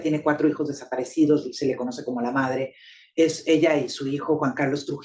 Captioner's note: speaking Spanish